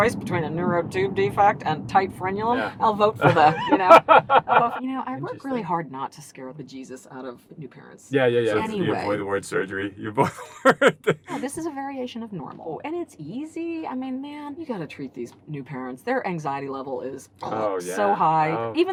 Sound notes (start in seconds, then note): 3.2 laughing; 10.1 laughs